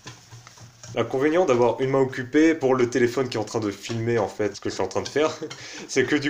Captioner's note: laughs